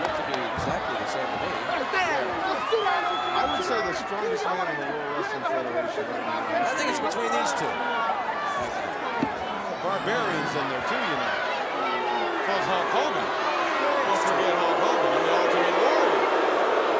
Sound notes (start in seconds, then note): 6.1 speaks faintly; 14.2 audience jeers